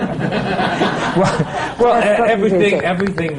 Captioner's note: laughter